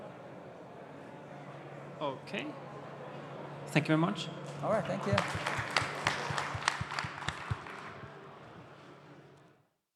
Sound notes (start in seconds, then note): 6.5 applause